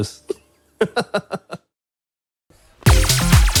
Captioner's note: laughs